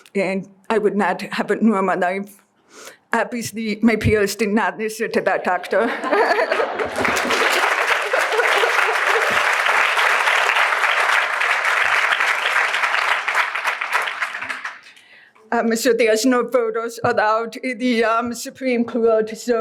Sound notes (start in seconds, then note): 8.1 applause